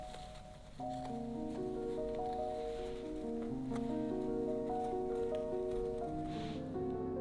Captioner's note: fabric rustling; bright piano music